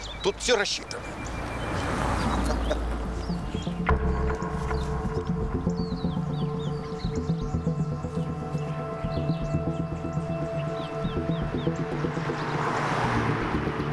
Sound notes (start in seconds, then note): 2.1 chuckles; 3.5 suspenseful music